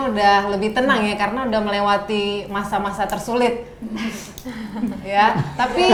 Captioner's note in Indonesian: laughing